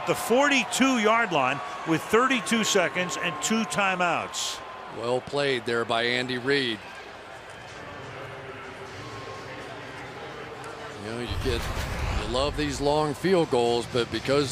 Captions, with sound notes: The ball at the 42-yard line with 32 seconds and two timeouts. Well played there by Andy Reid. [pa announcement] You know, you get to love these long field goals.